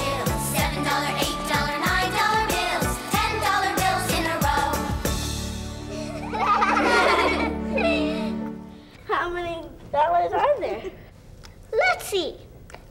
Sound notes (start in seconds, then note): 5.9 laughing